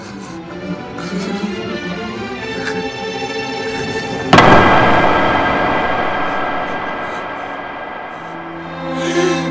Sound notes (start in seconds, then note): 4.3 loud click; 9.3 heavy breathing